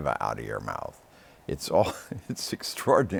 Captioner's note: chuckles